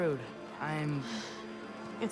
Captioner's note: sigh